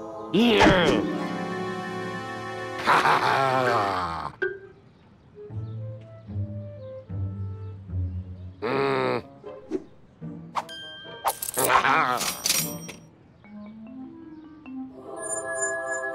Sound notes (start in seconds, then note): 12.2 cash register dings